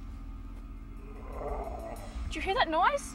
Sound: creature growling

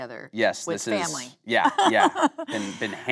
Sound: Kate laughing

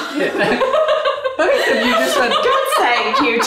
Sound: laughing

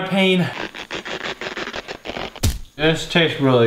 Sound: elastic stretching sound effect

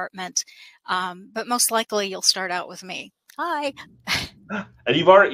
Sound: laughs

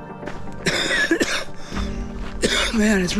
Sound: coughing deeply

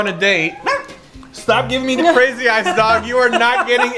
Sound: Spudgy barks

